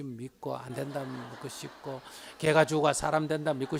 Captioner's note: audience Laughter